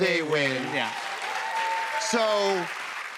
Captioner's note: cheers and applause